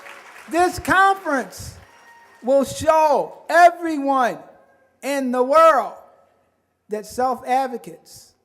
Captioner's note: applause